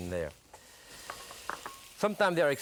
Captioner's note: bowl clatters